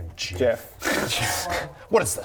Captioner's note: distant cry of pain